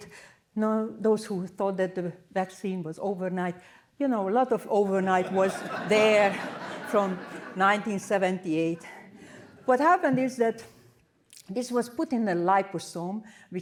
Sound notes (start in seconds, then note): 5.1 laughter